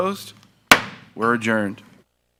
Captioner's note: gavel thuds